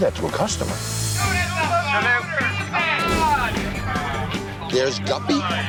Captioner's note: patrons yelling